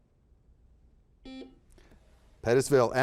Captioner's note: buzzer buzzes